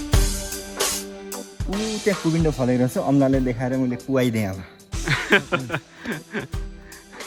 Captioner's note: laughter